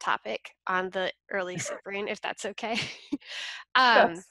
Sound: laughs

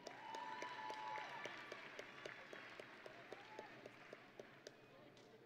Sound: audience and graduates cheering

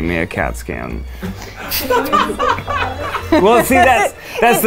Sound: laughing

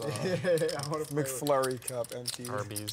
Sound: laughs

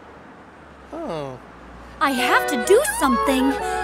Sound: child crying

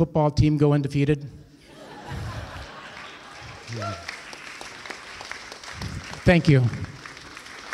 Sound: laughter and applause

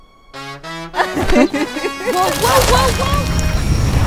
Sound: playfully Laughs

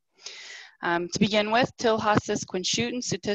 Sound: speaking in foreign language

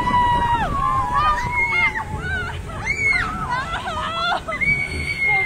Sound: screaming

